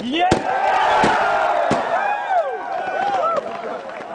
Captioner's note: cheering